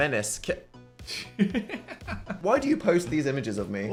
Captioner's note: laughs